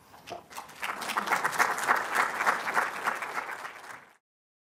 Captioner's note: applause